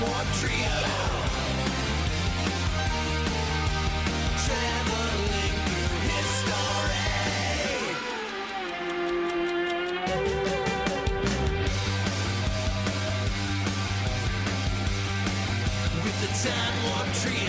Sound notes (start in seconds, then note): 6.8 clock ticking; 11.2 rock music